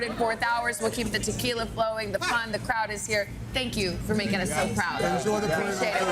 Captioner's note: chanting: let's go, knicks